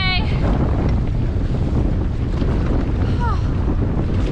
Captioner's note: sigh